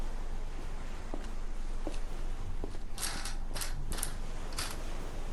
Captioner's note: waves crashing